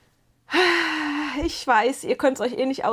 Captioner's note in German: japst; seufzt